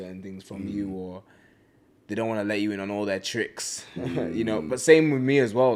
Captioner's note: laughs